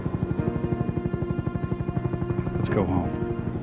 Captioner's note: rotors whirring